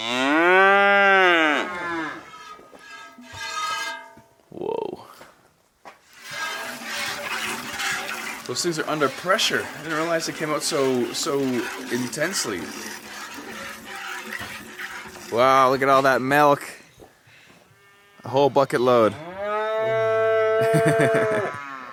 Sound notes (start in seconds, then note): 0.0 cows mooing; 3.6 milk hitting bucket; 19.0 cow mooing